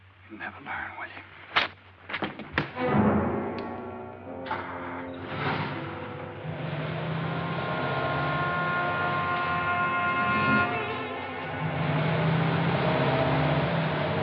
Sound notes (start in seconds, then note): 2.7 ominous music; 5.1 engine starts